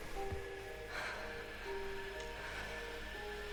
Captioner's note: shallow breathes